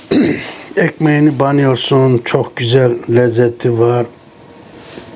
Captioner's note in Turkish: boğazını temizler